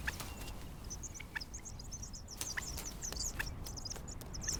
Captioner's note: birds chirping